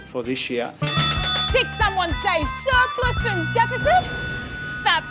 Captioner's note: bell rings